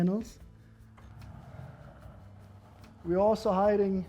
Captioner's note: panels sliding